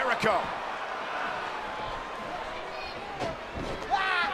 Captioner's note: crowd murmuring